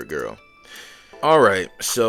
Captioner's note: audible sigh